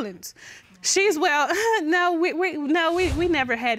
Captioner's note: chuckles